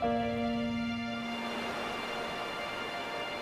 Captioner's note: rushing water